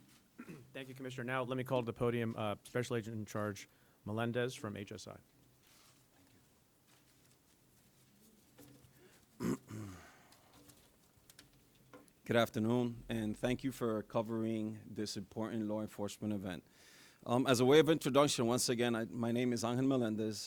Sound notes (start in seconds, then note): 9.3 clears throat